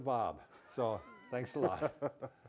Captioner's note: laugh